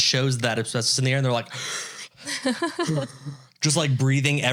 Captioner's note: inhaling deeply